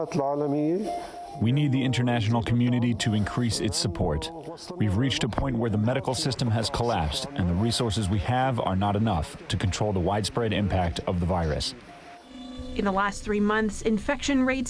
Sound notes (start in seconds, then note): 1.5 through translator